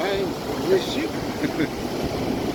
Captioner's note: laughing